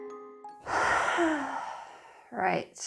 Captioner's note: deep sigh